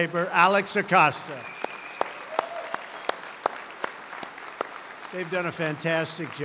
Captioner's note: applause